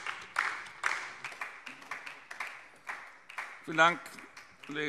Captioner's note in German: Beifall DIE LINKE und vereinzelt SPD